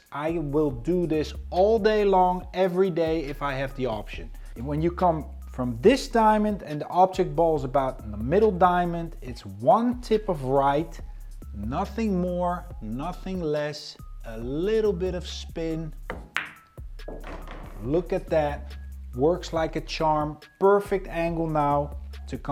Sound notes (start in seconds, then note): 16.3 upbeat music continues; 17.0 ball bangs